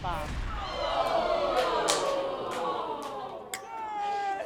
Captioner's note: audience exclaiming